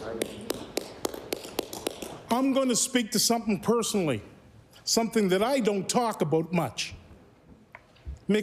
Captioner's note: applause